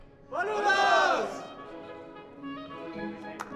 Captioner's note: players shouting in foreign language; upbeat orchestral music; player clapping